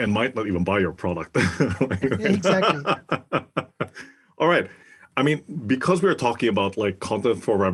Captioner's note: laugh